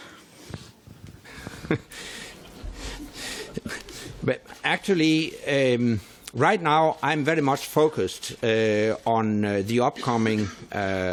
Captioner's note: laughter